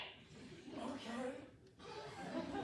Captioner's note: raspy